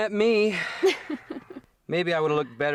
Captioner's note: chuckling